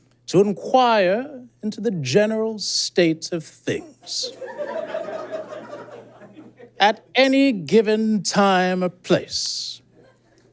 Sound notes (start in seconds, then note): 4.2 audience giggles profusely